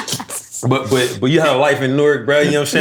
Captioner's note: laughter